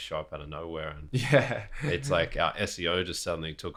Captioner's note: laughs